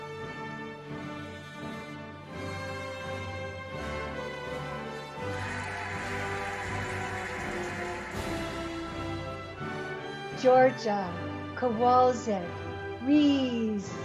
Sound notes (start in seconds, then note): 5.0 cheering and applauding